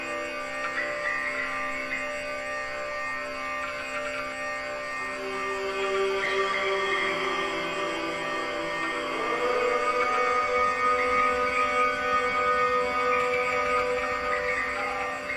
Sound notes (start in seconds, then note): 4.7 droning Continues; 4.7 嗡嗡声继续; 9.3 man Droning,In Higher Tone; 9.3 男子嗡嗡声，音调较高